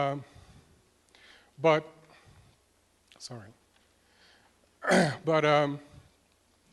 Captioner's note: cough